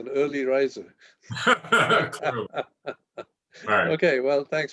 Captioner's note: laughter